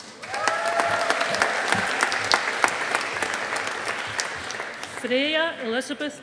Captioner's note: audience applauding